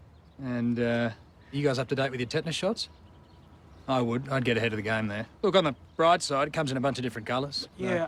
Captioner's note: none